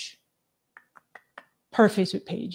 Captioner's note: clicking tongue